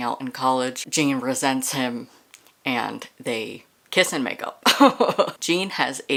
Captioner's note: laughter